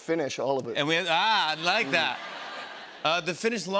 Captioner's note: laughter